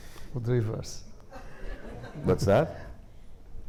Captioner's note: audience laughing